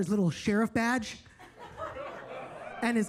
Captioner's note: attendees laughing